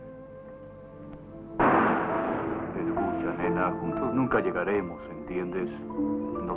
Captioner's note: Imitating Humphrey Bogart